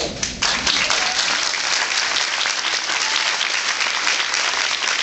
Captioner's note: applauds